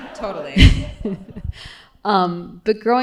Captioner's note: laughter